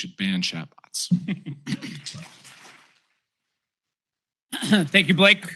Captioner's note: applause